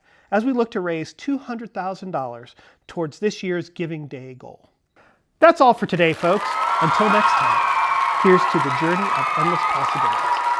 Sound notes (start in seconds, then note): 5.8 audience cheering